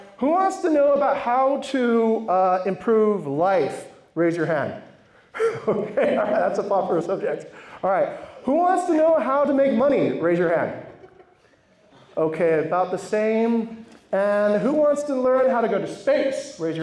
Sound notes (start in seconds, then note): 5.3 laughs